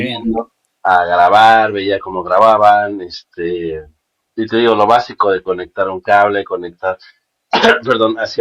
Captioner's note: cough